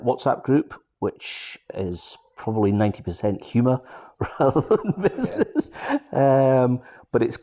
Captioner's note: laughs